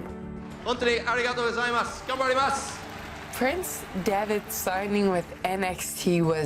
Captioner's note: speaking foreign language